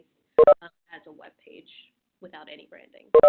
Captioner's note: system beeping; system beeping